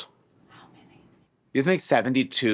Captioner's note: whispers